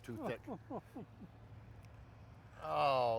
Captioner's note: chuckling